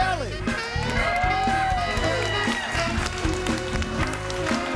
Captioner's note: audience cheering and applauding; lively music